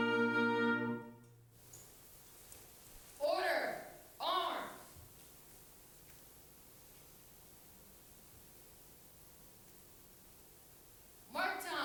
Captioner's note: foot steps